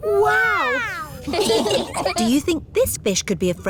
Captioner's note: laughing